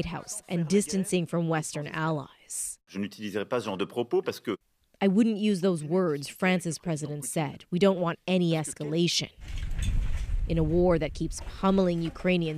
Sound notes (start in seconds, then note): 6.8 speaking Foreign Language